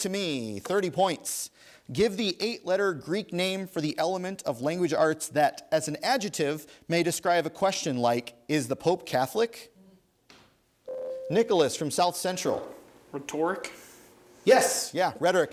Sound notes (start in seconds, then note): 10.9 ding